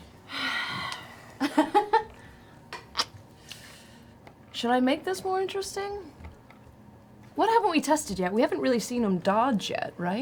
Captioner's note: sighs